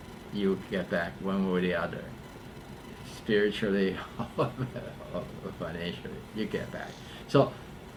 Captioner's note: laughs